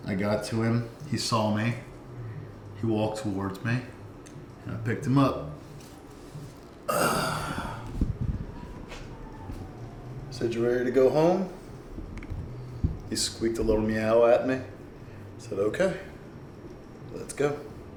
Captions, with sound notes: I got to him; he saw me. He walked towards me, and I picked him up. (grunts and sighs) I said, "You ready to go home?" He squeaked a little meow at me. I said, "Okay, "Let's go."